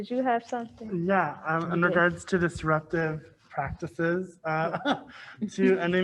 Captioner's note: laughs